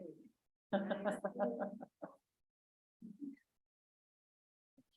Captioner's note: laughs